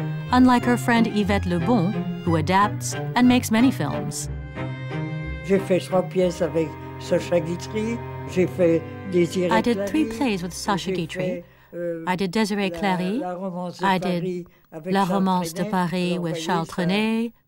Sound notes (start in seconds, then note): 5.3 French spoken audio